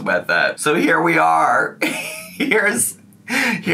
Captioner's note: laughs